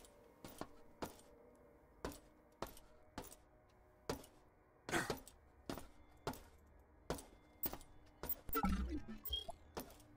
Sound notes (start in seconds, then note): 2.0 footsteps